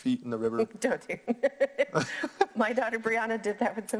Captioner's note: laughs